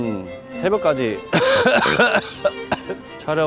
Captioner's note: A very real cough